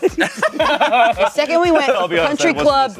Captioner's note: everyone laughs